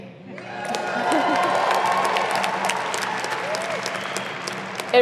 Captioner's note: audience applauding